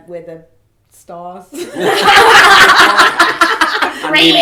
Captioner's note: all laugh